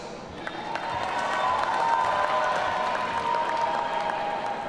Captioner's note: audience cheering